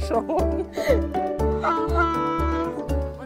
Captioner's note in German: Der Esel schreit